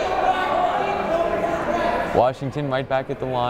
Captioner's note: yelling